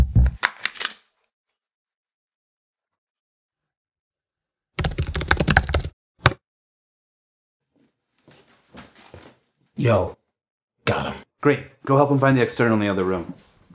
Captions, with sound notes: [TYPING] - Yo. Got 'em. - Great! Go help him find the external in the other room.